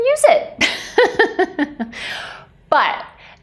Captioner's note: laughing